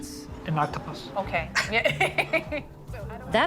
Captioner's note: laughs